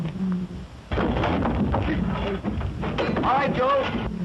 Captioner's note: lion roaring